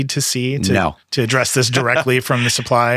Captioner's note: laughing